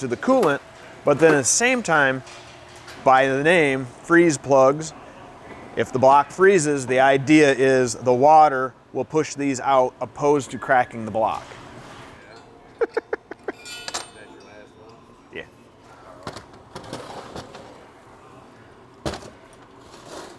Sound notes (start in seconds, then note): 12.6 laughs; 16.2 banging, scraping